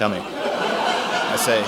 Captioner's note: audience laughs